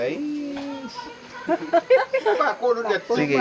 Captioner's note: laughs